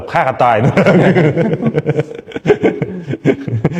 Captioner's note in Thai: เสียงหัวเราะ